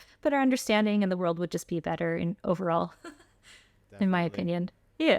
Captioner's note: laughter